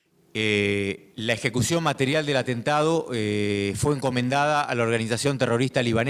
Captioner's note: speaking in foreign language